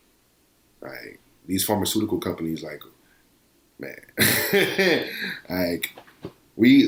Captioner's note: laughs